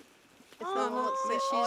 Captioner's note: awwww!